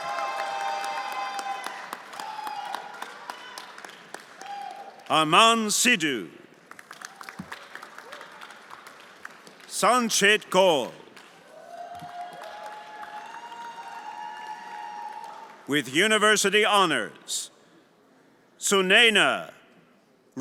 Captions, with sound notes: (everyone applauding and cheering) Aman Sidhu. (everyone applauding) Sanchet Kol. (everyone applauding and cheering) With university honors, Sulena Rudra Kargandhi.